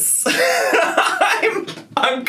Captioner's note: laughing